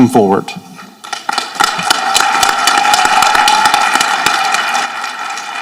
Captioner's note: people applauding